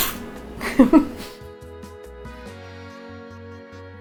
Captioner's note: laughs